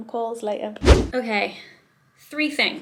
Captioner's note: whooshing sound